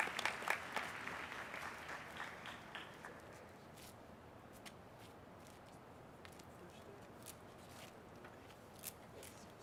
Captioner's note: applause